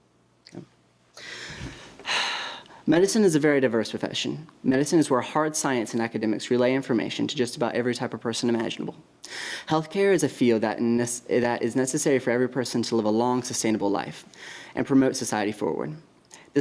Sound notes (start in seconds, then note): none